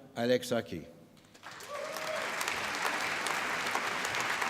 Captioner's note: applause